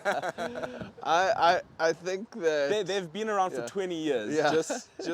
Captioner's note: laughs